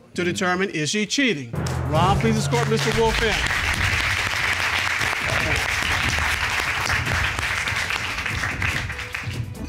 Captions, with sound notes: to determine, is she cheating? Ron, please escort Mr. Wolfe in. [applause]